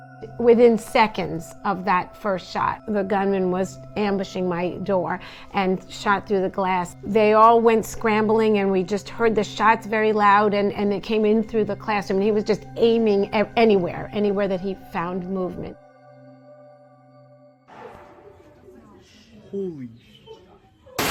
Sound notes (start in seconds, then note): 18.6 students chattering